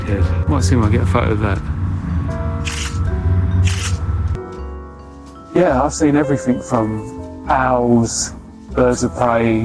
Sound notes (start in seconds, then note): 3.6 camera snapping